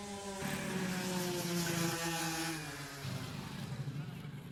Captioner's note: go-kart whirs